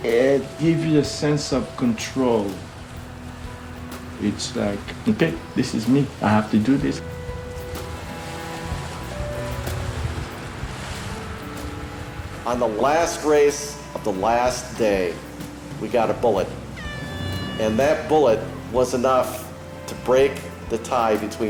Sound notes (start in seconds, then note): 16.8 air horn blows